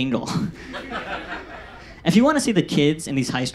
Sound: audience laughs

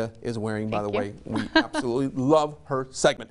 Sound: laughs

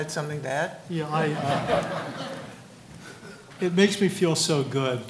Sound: audience laughing

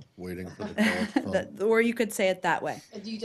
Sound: laughter

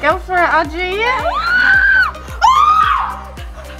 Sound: screams

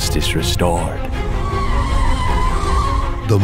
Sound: tires screech

